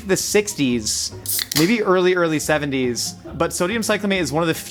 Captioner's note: soda can popping